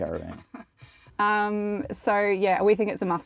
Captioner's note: host chuckling